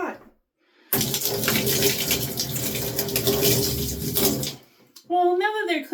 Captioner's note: splashing of pot water